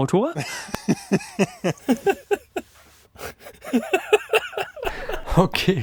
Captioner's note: laughter